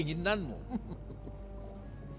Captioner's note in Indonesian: tertawa